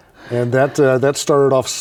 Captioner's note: laughs